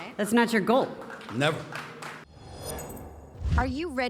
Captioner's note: audience clapping